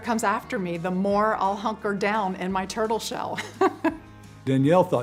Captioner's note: chuckles